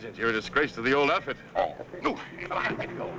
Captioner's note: groaning